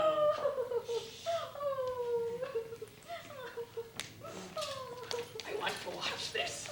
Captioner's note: sobbing